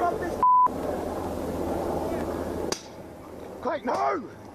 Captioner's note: gun shots